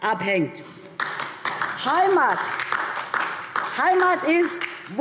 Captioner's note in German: Beifall DIE LINKE